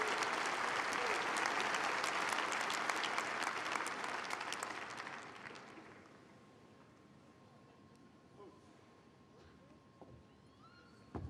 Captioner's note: applause